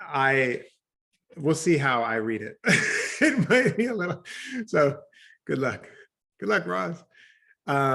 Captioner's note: laughs